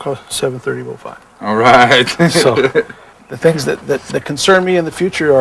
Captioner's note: laughter